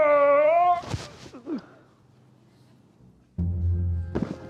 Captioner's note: groaning